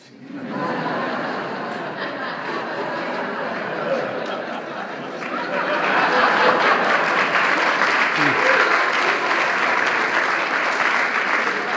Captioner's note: laughter and applause